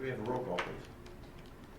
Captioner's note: none